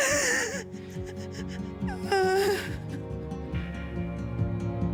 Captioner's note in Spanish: Sollozos